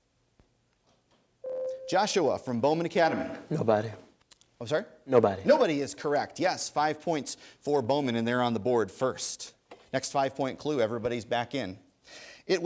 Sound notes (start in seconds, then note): 1.4 ding